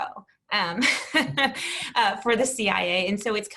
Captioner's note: laughs